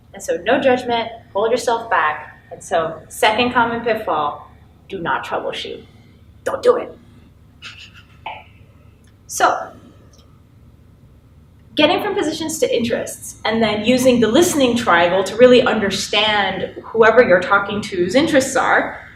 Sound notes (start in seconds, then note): 7.6 chuckles